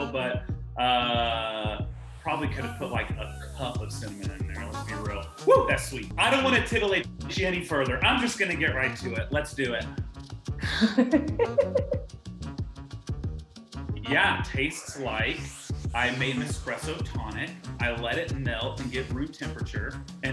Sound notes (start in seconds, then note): 11.3 slurps